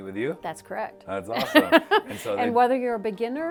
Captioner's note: laughs